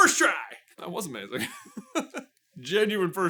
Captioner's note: genuine laugh